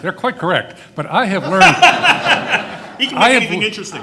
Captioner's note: everyone laughing